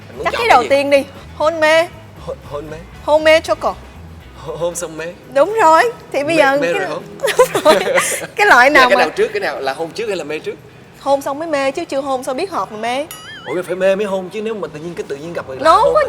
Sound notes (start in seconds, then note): 6.5 laugh